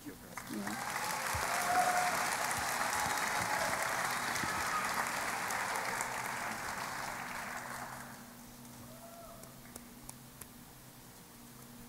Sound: applause

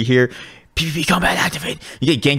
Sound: whispering

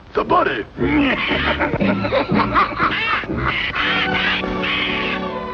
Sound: laughter

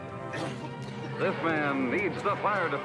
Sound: coughing

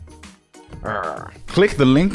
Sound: growls

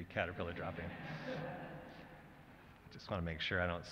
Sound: laughter

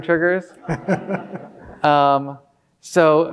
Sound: audience laughing

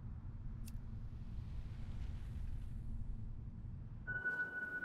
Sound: lighter flicks

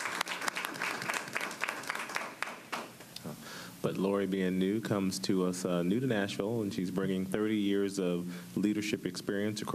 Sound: applause

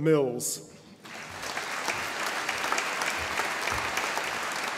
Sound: audience applauding

